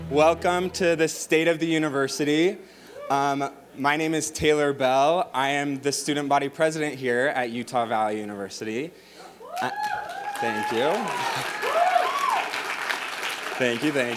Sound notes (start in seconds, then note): 9.4 crowd cheering